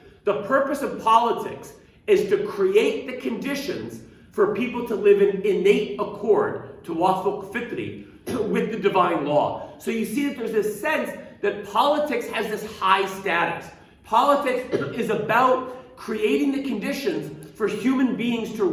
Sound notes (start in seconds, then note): 7.0 speaking arabic